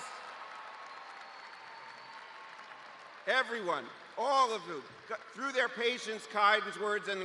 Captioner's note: cheers and applause